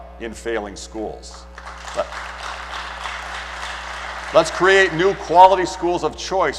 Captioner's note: applause